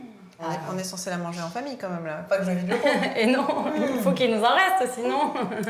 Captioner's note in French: rires